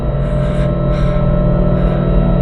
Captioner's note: frightened breathing